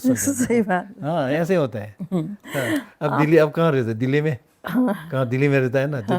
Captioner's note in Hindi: हंसी